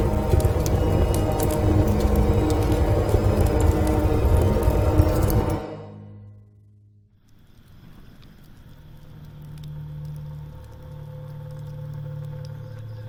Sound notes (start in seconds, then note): 10.2 fire crackling gently